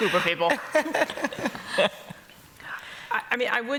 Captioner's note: laughter